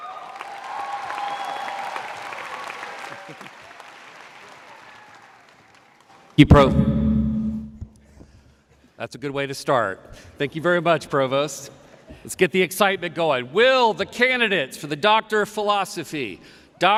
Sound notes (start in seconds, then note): 0.1 audience cheering; 6.4 microphone echoing